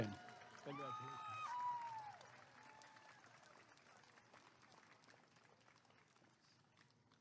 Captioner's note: applause and cheering